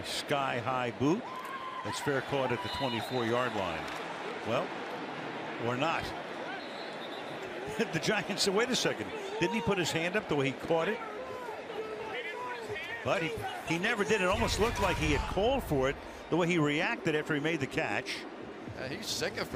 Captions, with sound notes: And a sky-high boot. That's fair caught at the 24-yard line. Well-- or not. [whistle] The Giants said, wait a second, didn't he put his hand up the way he caught it? He didn't put his hands. But he never did. It almost looked like he had called for it the way he reacted after he made the catch.